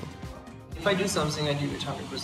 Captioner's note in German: englisch